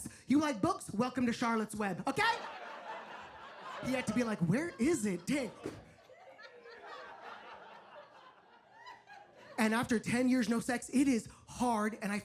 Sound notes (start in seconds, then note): 2.2 audience laughs